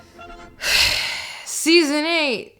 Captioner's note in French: Gros soupir